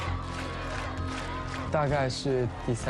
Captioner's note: cheering